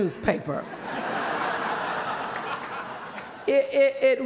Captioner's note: laughter